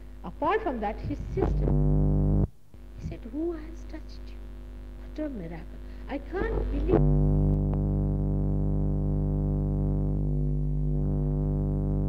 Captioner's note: noise in mp3